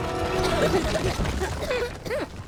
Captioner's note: both coughing